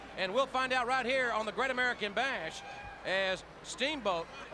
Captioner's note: none